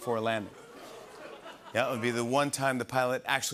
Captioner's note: laughter and ohs